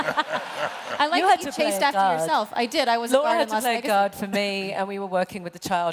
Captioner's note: laughter